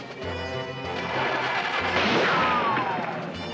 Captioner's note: boat engine starting